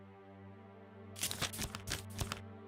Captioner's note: flipping pages